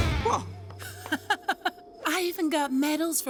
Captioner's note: chuckling